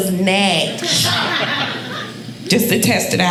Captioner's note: audience laughing